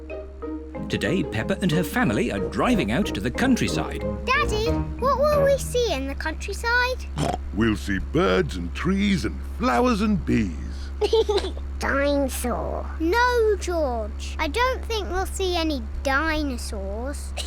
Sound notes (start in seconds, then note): 7.1 snorts; 10.9 laughs